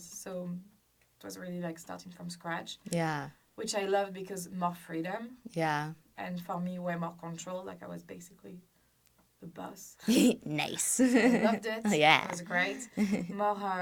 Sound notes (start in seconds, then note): 10.0 laughs